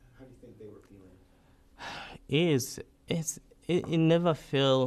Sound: sighs

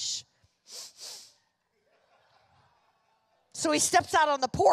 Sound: loud sniffing; congregation laughing

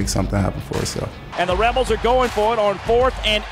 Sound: voiceover

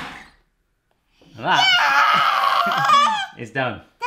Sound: girls yelling

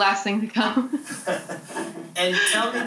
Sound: laughter

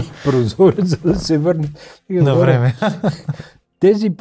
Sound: laughter

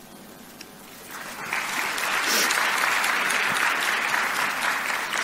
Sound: audience applauds

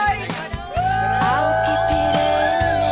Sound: yelling

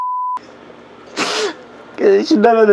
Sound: sob!!

